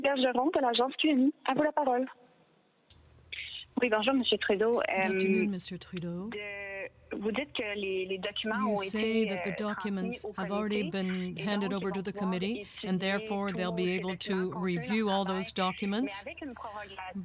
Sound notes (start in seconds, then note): 6.1 speaking French